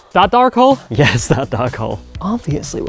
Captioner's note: laughs